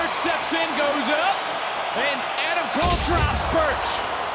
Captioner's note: crowd cheers